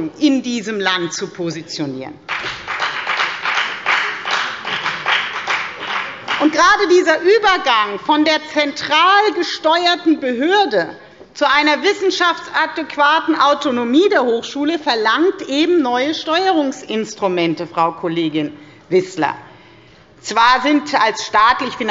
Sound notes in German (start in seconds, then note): 2.2 Beifall bei der FDP